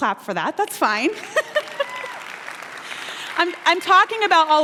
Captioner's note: applause